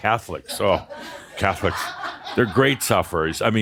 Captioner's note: laughter